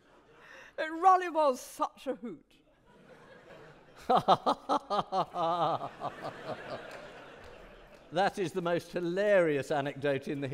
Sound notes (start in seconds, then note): 2.8 audience laughing; 3.0 laughing